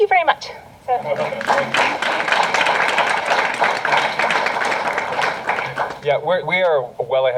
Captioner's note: applause